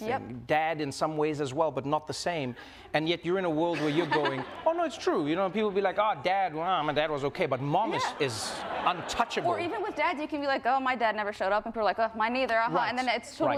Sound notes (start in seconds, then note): 3.6 audience laughs; 3.7 Jennette and audience laugh; 7.8 audience laughs